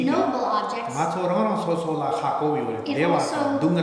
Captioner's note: speaking tibetan